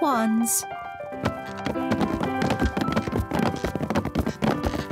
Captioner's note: all stomping